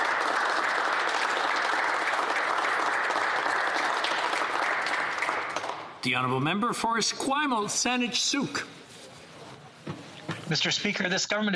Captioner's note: applause